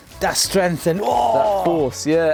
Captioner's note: groans